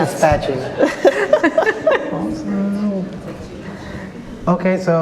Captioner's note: all laughing